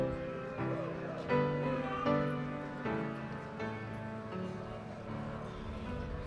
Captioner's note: audience chatting off microphone